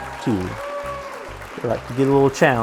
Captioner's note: audience applauding